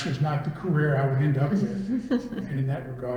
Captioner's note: all laugh